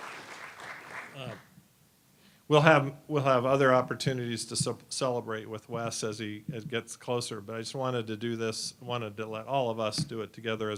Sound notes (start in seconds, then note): 0.0 applause